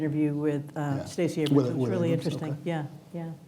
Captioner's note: murmurs